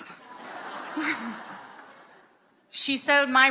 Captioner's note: audience laughing